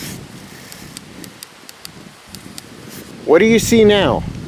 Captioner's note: light clicking